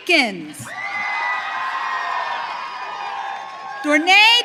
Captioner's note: audience cheering